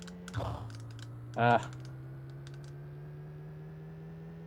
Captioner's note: grunts